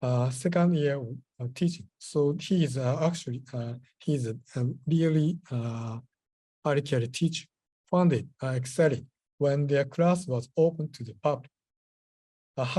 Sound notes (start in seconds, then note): 5.7 japanese